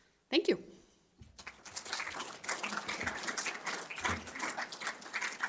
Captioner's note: applause